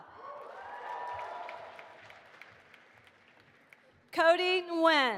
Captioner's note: audience applauding